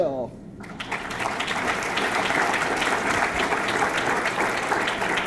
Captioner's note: audience clapping